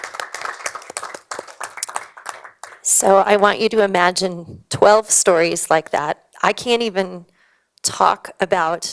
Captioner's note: applause